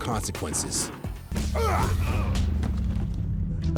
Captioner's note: fighting grunts